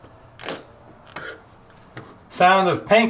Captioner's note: snapping